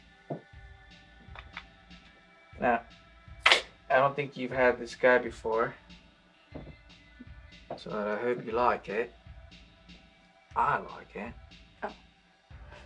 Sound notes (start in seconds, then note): 3.4 open's bottle